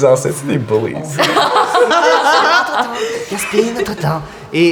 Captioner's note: laughter